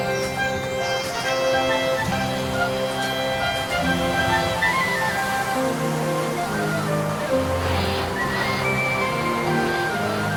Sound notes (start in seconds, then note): 4.8 waves crashing